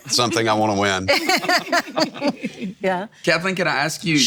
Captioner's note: everyone laughing